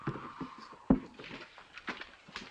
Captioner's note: none